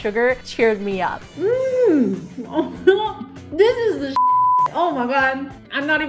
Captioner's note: beep